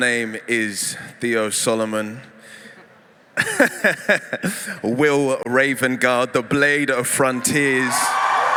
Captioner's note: cheering